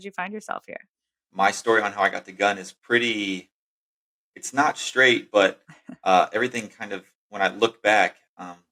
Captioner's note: <laugh>